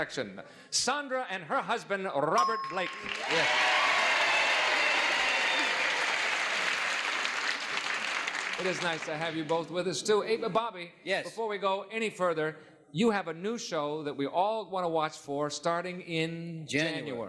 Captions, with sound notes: Sondra and her husband Robert Blake. -Yes. [applause] -It is nice to have you both with us too. -Bobby. -Yes? -Before we go any further, you have a new show that we all wanna watch for starting in January, right?